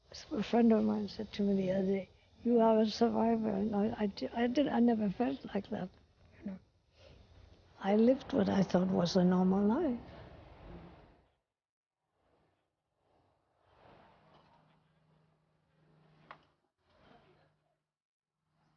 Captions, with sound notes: A friend of mine said to me the other day, "You are a survivor." I didn't, I did. I never felt like that. You know. I lived what I thought was a normal life. [Ambient noise, wind] [Footsteps]